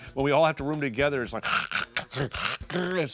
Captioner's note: snoring